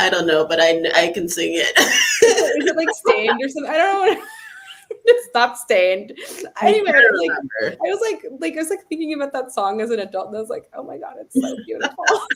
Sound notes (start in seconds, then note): 1.8 laughs